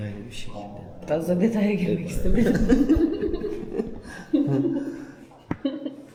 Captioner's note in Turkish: kahkaha